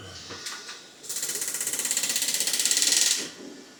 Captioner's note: Ugga Dugga sound